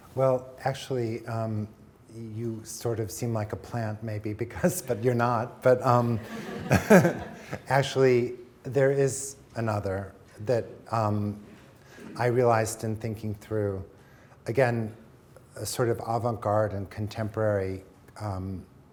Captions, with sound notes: - Well, actually, you sort of seem like a plant maybe (chuckling) because, but you're not. (audience chuckling) Actually, there is another that I realized in thinking through, again, a sort of avant-garde and contemporary linkage.